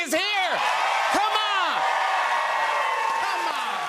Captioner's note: cheers and applause